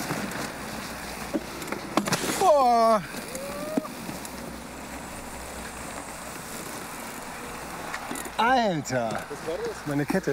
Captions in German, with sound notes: *Aufschrei* Alter, meine Kette.